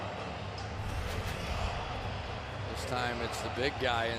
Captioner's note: swoosh